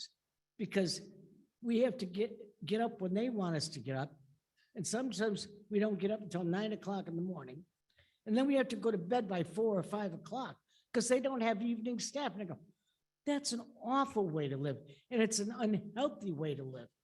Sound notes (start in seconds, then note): none